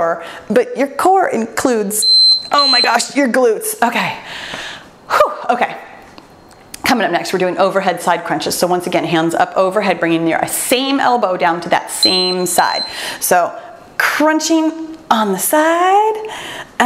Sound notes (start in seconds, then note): 2.0 timer beeps